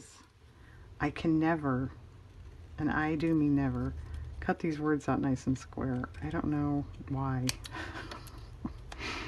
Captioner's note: laughs